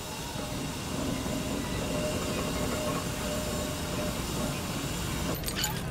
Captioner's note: steam turbine puffing